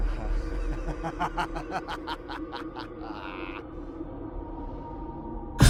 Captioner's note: maniacal laughing